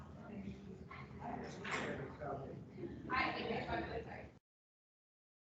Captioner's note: people chattering